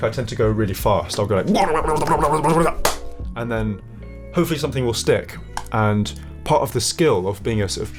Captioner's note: quick, excited sounds!